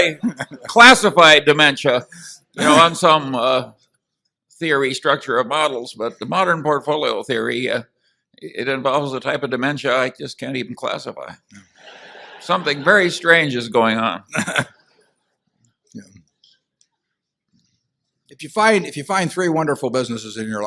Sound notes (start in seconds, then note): 11.8 laughter; 14.3 Buffett laughs